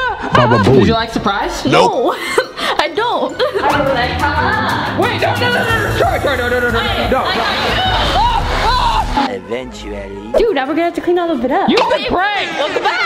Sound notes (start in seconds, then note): 7.9 yelling